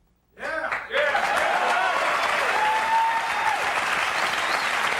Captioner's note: audience cheering